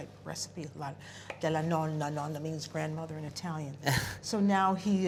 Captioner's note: speaking italian